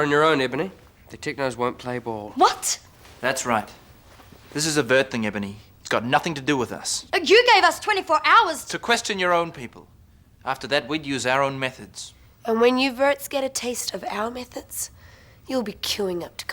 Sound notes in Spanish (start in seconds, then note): none